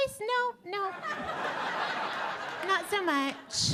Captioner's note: audience laughing